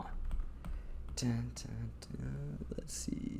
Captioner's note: quietly humming